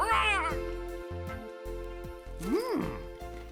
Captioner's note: צווחות